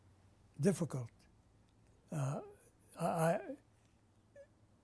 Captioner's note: pauses for 3 seconds